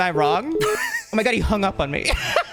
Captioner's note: laughing; telephone beeping